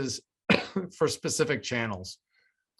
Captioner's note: coughs